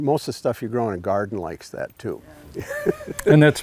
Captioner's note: laughs